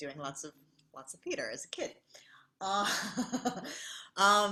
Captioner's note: laughs